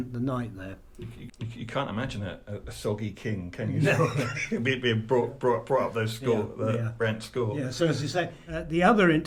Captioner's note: laughs